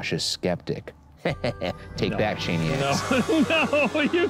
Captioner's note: laughs